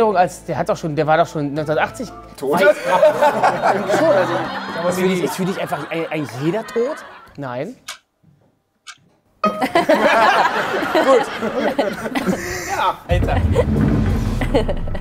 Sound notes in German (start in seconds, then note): 3.7 Lockere Klänge; 9.5 Gelächter; 13.7 Kichern